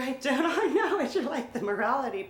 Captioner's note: laughs